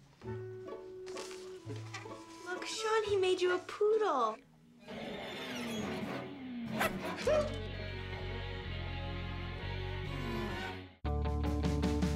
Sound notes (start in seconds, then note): 4.9 growling and barking; 7.1 yelps